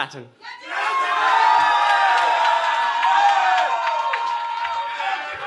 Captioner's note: cheering